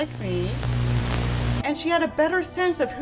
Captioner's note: Static